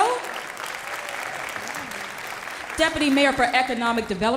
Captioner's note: applause